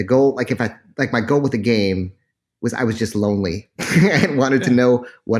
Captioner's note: laughs